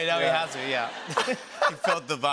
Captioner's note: laughter